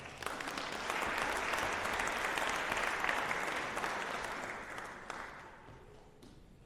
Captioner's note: applause